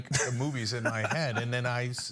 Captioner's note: laugh